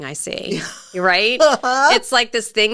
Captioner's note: chuckling